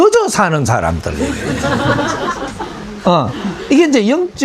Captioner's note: audience laughs at speakers expression